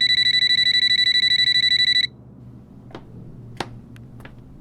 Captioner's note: telephone ringing